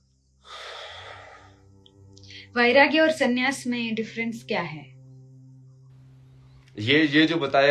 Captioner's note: गहरी सांस लेने की आवाज़